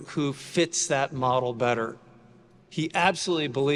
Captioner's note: none